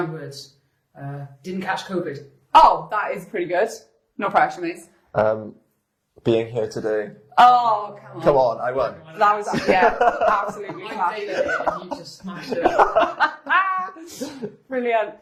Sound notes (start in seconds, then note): 9.4 laughs; 13.9 laugh